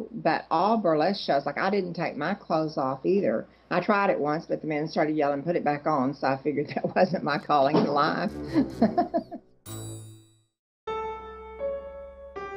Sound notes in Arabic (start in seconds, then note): 11.0 موسيقى البيانو التأملية; 11.0 يضحك